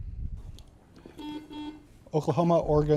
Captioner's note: buzzer beeping